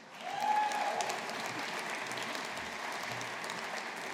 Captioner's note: audience applauding